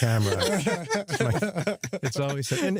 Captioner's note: laughter